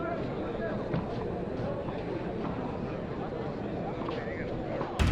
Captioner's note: people chattering